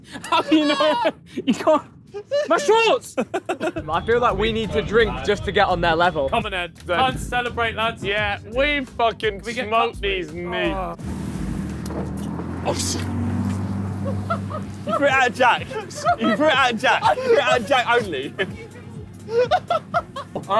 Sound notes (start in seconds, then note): 0.0 laughs; 10.9 boat engine whirring; 14.0 laughs; 19.2 laughing